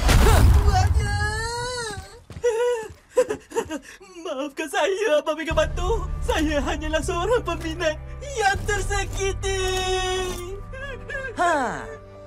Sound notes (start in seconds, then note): 1.2 sobs; 10.4 sobs pitifully